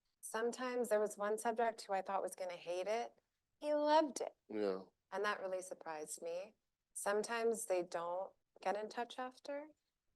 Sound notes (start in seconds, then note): none